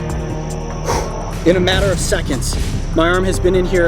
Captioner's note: exhales